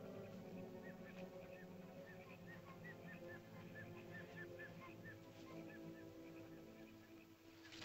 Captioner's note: ominous music; chirping sounds; ominous music